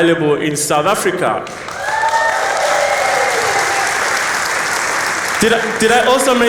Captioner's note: applause